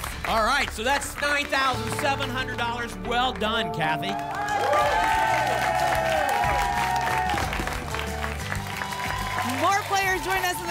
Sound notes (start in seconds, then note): 4.2 applause and cheering